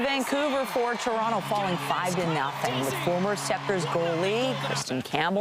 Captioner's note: applause